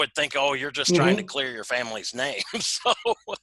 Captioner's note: laughs